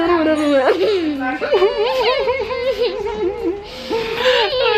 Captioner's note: crying noise